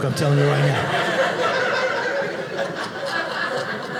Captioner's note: audience laughing